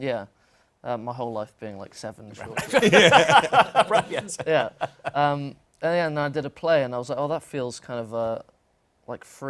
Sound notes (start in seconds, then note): 2.5 laughter